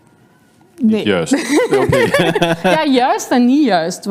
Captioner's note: laughs